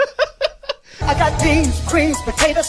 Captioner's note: laughing